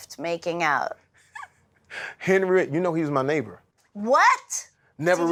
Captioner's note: laughs